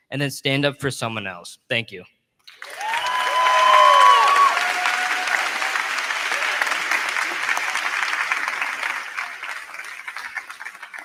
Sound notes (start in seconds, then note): 2.4 crowd clapping; 2.5 crowd cheering